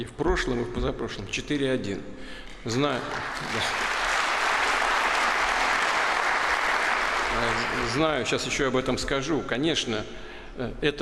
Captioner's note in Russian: Аплодисменты